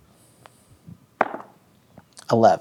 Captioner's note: dice rolling